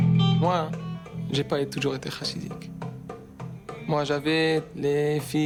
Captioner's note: speaking in foreign language